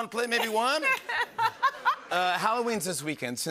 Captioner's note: laughter